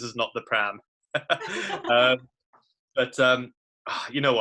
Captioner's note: both laugh